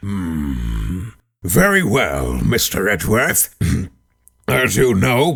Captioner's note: ahem